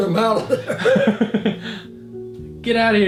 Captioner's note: chuckling